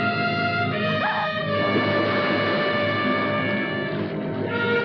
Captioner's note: water splashes